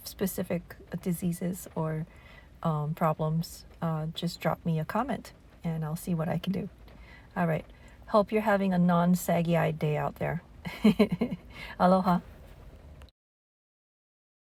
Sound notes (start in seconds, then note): 10.7 laugh